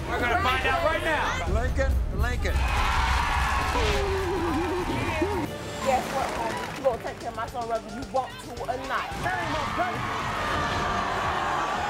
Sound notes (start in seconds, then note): 2.4 audience yells; 9.3 audience boos